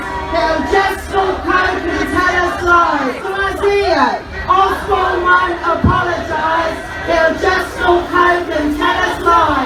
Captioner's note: crowd cheers